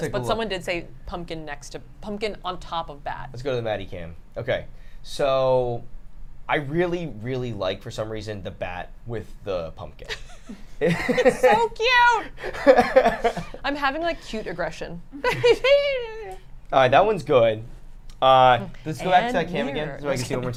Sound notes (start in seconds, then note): 10.0 laugh